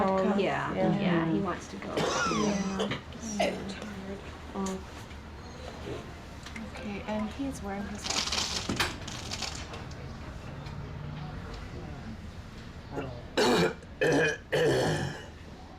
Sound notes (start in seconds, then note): 1.9 coughs; 8.9 object Clatters; 13.4 coughs, Clears Throat